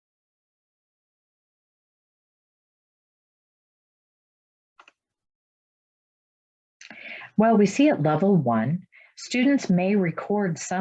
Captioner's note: silence